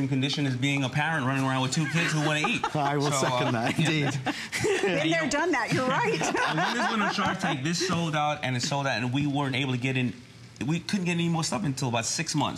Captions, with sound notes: BEING RUNNING AROUND BEI WITH TWO KIDS WHO WANT W TO EAT. [LAUGHTER] THIS SOLD OUT AND IT SOLD OUT WE WEREN'T ABLE TO GET IT ANY OTHER STUFF UNTIL